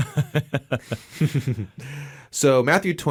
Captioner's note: both laughing